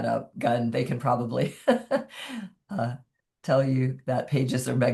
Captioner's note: chuckles